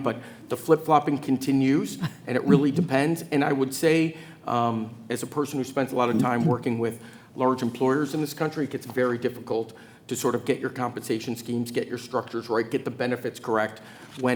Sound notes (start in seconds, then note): 1.9 chuckles